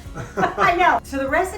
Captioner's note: both chuckle